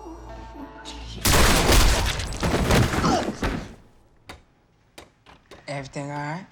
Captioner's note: gunshots